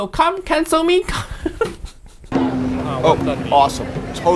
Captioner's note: Uncle Roger chuckling